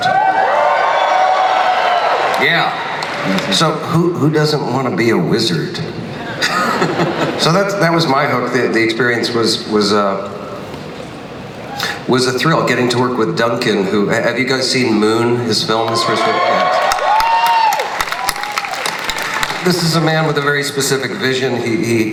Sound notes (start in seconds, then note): 0.0 audience cheering; 15.8 audience cheering